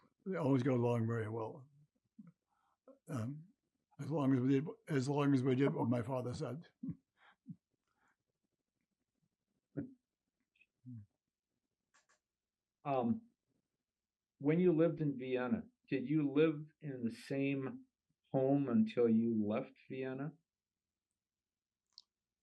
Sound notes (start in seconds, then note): 6.7 laughing